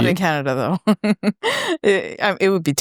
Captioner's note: laughing